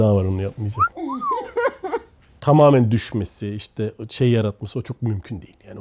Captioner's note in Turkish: kahkaha